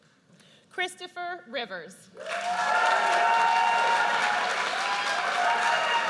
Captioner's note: audience cheers